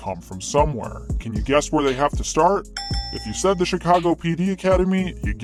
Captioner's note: ding ding